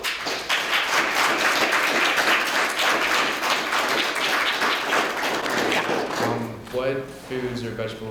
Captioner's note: applause